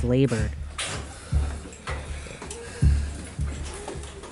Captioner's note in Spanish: respiración laboriosa